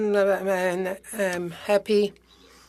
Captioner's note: speaking French